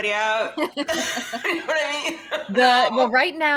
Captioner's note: laughs